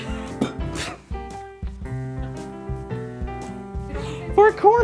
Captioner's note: laughing; laughing